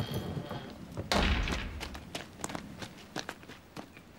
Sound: door slams

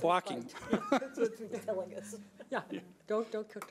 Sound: laughs

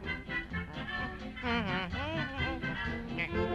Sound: humming

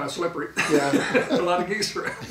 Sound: laughing

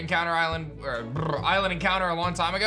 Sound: lip bubbles

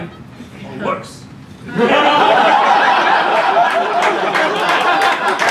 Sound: laughter

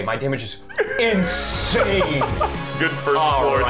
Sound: laughing

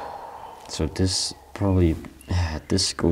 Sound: sigh

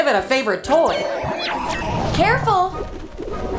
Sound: roar

